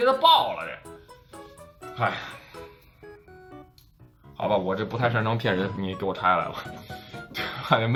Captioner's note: sigh